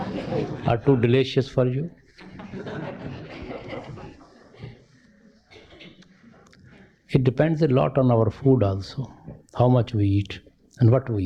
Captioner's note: laughter